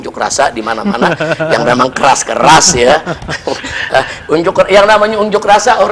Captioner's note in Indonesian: tertawa